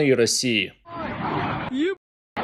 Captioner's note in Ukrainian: звук ракети, що пролітає